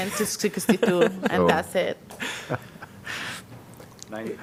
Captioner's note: laughter